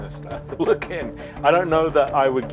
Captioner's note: laughs